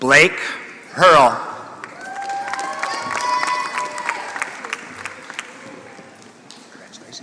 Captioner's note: applause